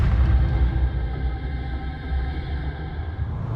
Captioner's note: gunshot